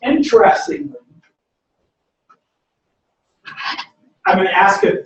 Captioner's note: pause